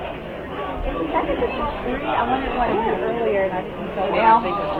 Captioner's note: crowd chattering